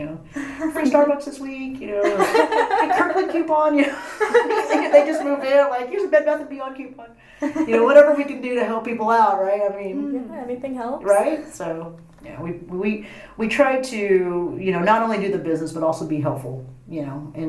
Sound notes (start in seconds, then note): 1.9 laugh; 2.0 laughs